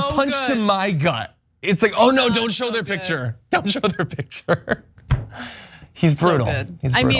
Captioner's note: laugh